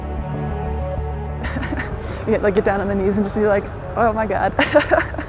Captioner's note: laughs; laughs